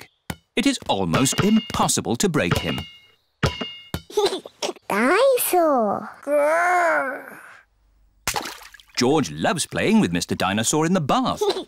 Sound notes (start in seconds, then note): 4.1 giggles